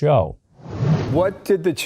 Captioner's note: air swooshes